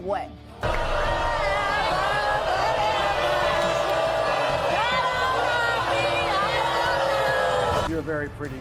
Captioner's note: audience booing; yelling